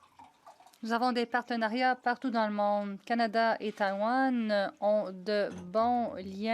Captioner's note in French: voix de l'interprète